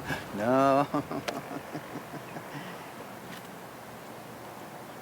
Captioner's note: laughs